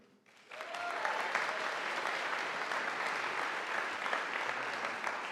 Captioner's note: audience applauding